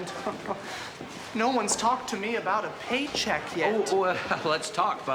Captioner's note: chuckles